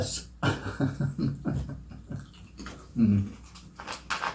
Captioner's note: chuckles